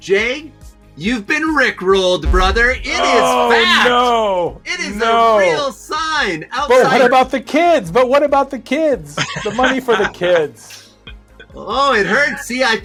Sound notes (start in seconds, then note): 9.1 laughing